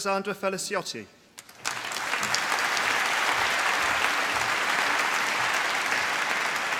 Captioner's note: applause